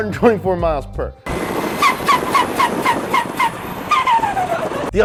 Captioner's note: engine revving